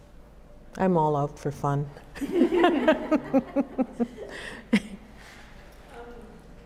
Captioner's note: laughter